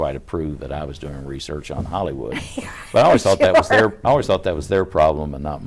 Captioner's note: laughs